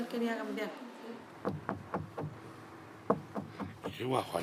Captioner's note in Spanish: Golpes